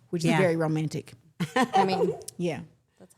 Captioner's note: everyone chuckles